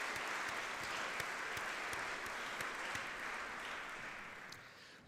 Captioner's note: audience clapping